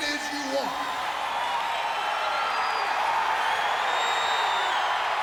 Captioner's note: crowd cheering